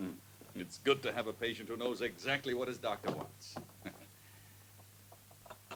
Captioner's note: chuckles